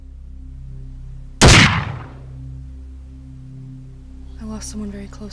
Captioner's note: gun fires